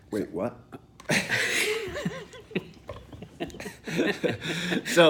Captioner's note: both laugh